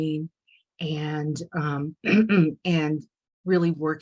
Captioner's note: clears throat